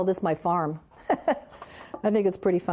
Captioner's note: laughs